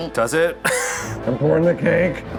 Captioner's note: laughs